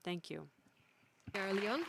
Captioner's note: applause